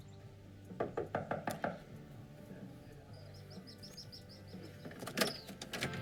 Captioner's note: birds singing; knocking; rock and roll music